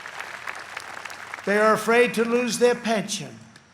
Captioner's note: applause